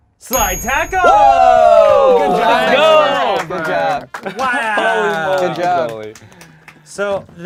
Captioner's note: group cheers; overlapping chattering